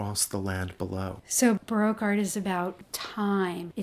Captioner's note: voiceover